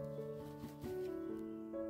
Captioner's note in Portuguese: som das galinhas a caminhar; som do bater de asas do galo